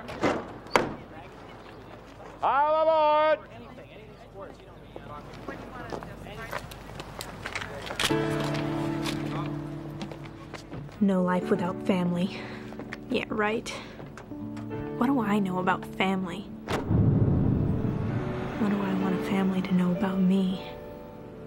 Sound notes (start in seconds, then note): 0.1 compartment door closes; 7.9 camera snaps; 16.6 bus door closes